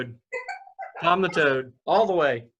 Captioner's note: laughs